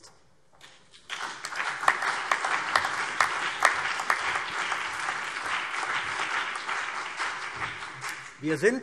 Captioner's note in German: Beifall CDU, BÜNDNIS 90/DIE GRÜNEN und auf der Regierungsbank